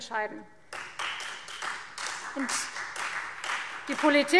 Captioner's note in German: Beifall Freie Demokraten